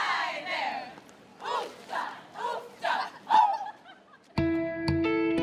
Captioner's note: women chanting